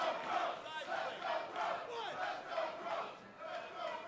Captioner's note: fans chanting